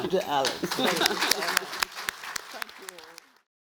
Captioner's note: audience clapping